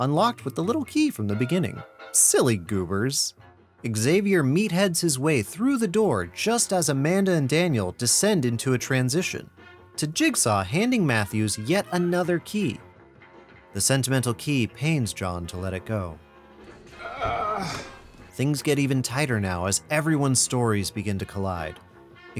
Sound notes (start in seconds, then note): 16.9 john groaning